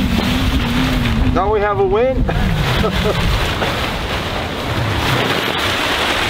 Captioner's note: laughing